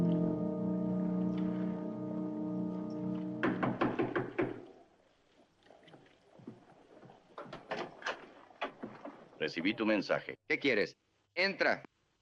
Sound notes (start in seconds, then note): 3.4 knocking on door